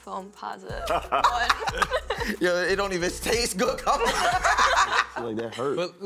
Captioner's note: laughing